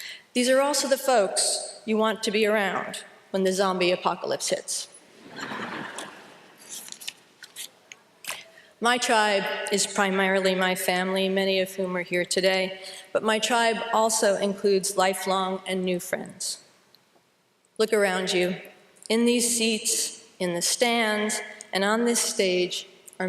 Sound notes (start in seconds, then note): 5.2 laughter